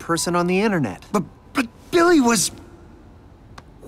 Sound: stuttering

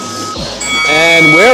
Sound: opening bell

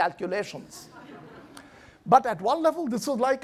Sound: laughing

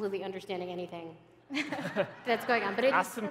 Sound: laughter

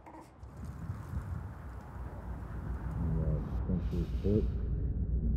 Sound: wind blowing

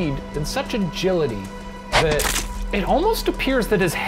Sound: wet slicing

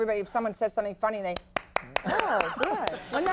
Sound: Lily clapping

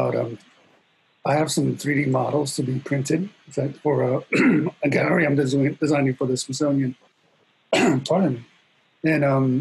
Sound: clears throat

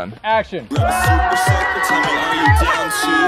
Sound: yells

